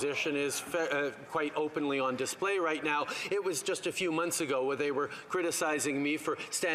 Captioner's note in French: voix de l'interprète